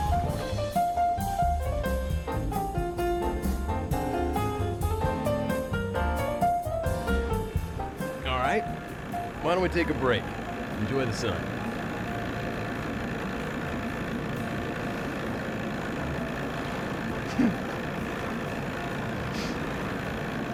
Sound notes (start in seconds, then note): 11.8 engine purring; 17.2 giggles